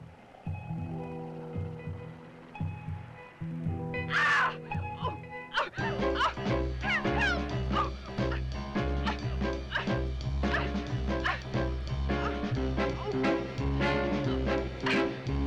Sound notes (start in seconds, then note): 4.0 Bunny screams; 7.2 Bunny grunting; 7.2 dramatic music